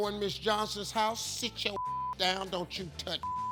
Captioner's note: beeping